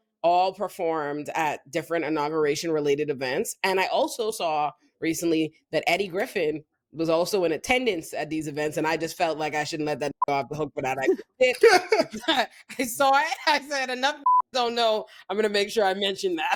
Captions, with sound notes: all performed at different inauguration related events. And I also saw recently that Eddie Griffin was also in attendance at these events, and I just felt like I shouldn't let that (beep) off the hook for that. (both laughing) So I said enough (beep) don't know, I'm gonna make sure I mention that.